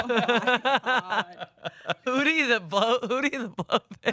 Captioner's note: laughing